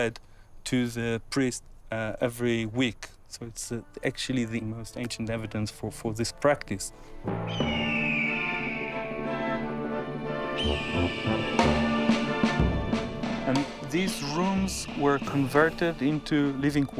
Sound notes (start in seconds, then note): 7.2 eagle cry